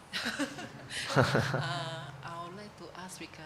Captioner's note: laughs